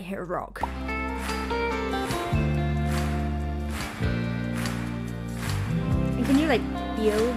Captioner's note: smooth guitar music; audience clapping